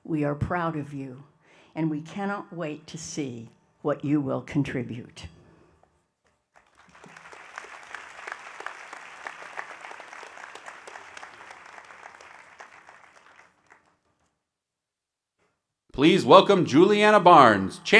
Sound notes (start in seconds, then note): 6.6 audience applauding